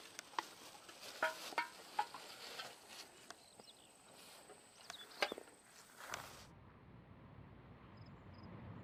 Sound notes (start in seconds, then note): 4.3 birds chirping